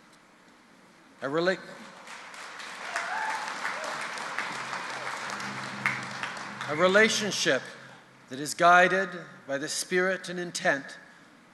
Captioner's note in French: Applaudissements